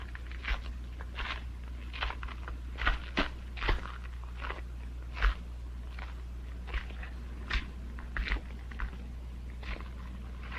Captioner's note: footsteps